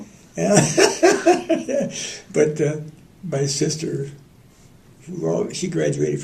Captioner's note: laughter